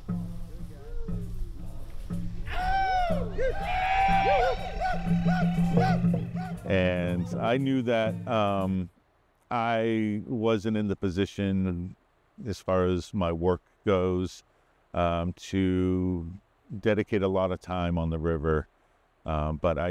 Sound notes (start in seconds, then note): 0.0 drumming; 2.5 cheering